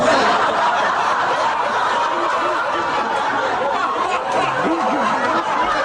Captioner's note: laughter